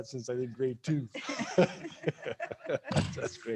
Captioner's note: councillors laughing